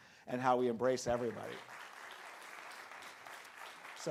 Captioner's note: crowd clapping